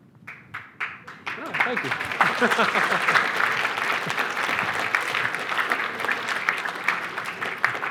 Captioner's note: applause